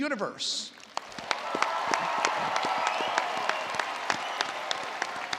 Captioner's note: attendees applauding